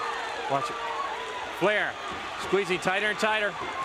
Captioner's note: crowd cheering